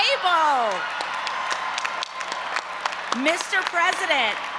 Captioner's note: audience applauding and cheering